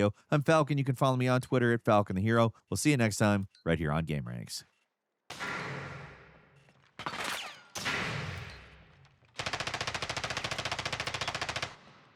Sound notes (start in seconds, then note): 5.4 metal clanging; 7.2 sniper shot; 9.5 rapid gunfire